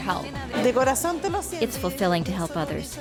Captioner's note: speaking spanish